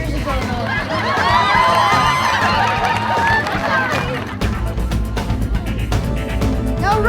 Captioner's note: audience cheering and applauding